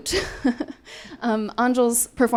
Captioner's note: laughing